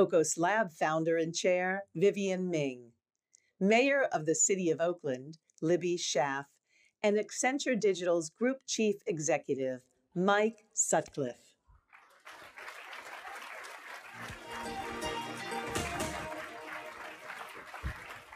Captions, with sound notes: Socos Lab Founder and Chair, Vivienne Ming. Mayor of the City of Oakland, Libby Schaaf. And Accenture Digital's Group Chief Executive, Mike Sutcliff. (applause) (light music)